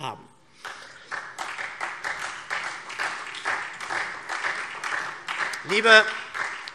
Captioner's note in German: Beifall SPD